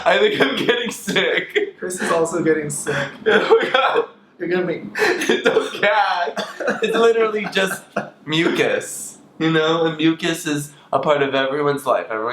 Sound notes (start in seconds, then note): 0.0 laughs; 5.0 gags; 5.0 laughs